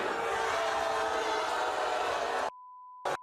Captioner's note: audience boo's